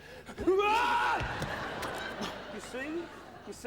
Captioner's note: yelps loudly